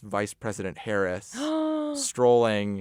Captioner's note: gasps